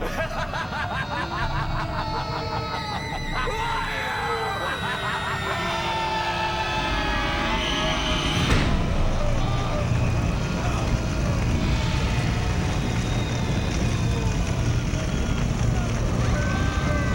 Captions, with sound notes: - Who are you? (chaotic screaming) No. (chaotic screaming) (ominous music)